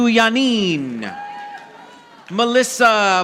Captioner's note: audience applauding